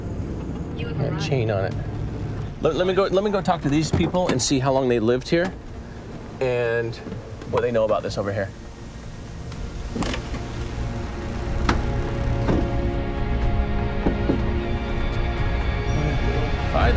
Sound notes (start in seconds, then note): 9.8 suspenseful music continues; 12.1 truck door bangs; 14.2 hand knocking